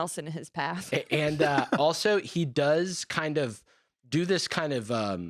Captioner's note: laughs